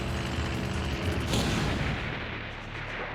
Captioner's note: explosion